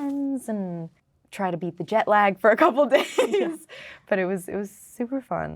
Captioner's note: laughing